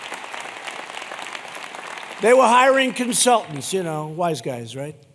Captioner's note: applause